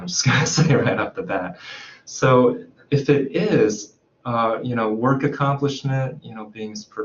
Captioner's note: laughs